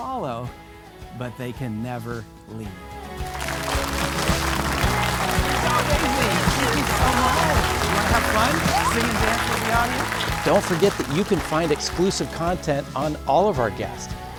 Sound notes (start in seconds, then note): 4.8 audience applauding; 4.8 bright music